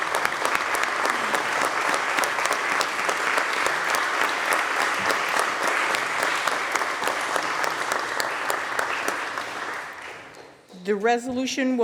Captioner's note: applause